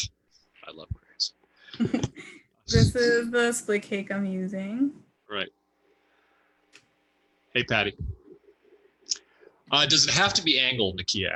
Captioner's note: chuckles